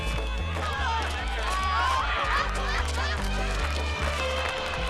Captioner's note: crowd laughing; elephant trumpeting